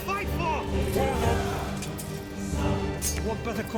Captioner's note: all shouting